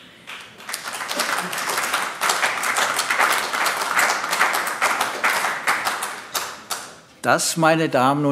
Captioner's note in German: Beifall AfD